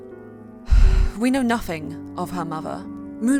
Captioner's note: sigh